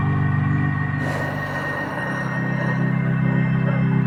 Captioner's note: creature breathe heavily; soft dramatic music